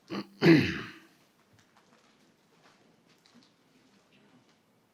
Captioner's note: participant clears throat